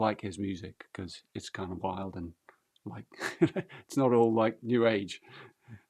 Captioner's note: laughs